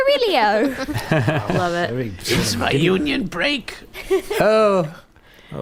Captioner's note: laughing